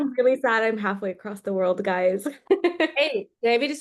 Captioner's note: laughs